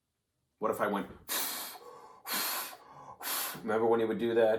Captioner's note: blowing wind out